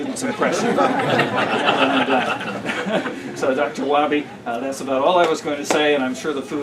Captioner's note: laughter